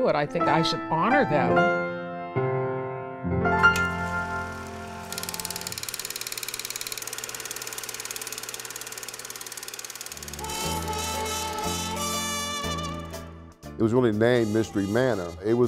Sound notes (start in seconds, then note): 4.3 film strip advancing